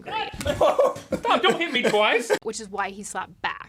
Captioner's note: Rhett laughing